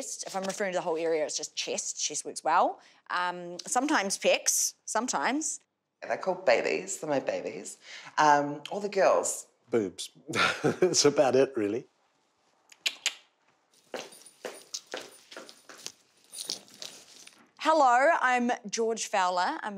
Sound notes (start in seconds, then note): 12.7 mouth clicks; 13.4 footsteps tapping